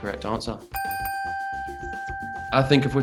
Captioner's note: dinging